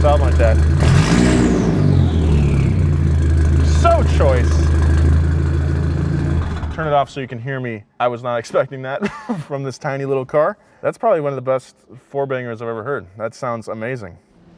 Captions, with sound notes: (engine revving) So choice. Turn it off so you can hear me. I was not expecting that from this tiny little car. That's probably one of the best 4-bangers I've ever heard. That sounds amazing.